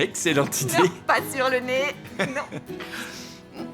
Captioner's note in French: rires